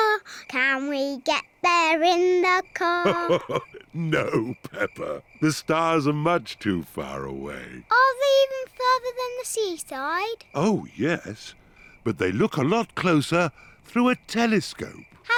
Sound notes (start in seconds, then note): 2.9 chuckles